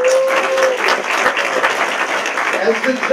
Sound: applause

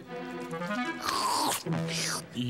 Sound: slurping

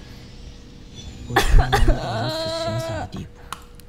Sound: anguished sobbing

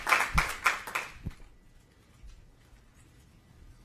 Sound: applause

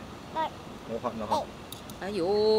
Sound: burning

